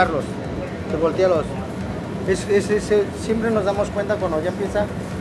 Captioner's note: foreign language